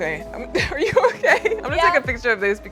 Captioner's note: laughs